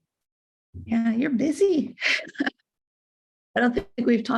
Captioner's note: both laugh